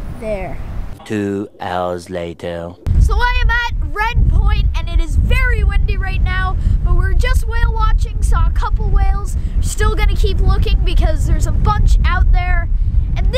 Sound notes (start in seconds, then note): 1.4 voiceover